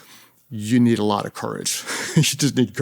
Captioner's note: chuckles